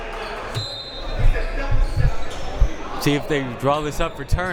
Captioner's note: whistle